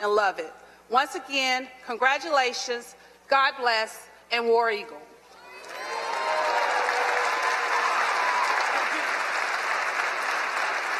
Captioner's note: applause